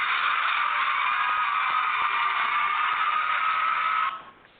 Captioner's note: audience cheering